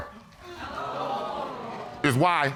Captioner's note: audience exclaims